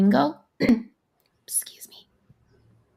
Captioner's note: clears throat